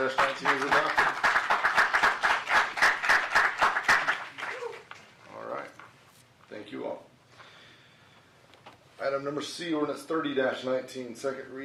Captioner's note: applause